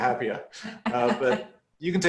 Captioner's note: laughing